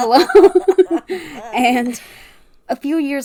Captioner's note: laughing